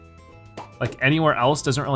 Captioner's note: balloons popping